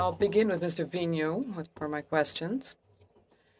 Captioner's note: speaking French